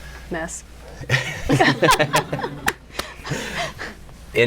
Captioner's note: laughter